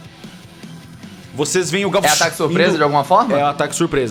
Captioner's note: pshh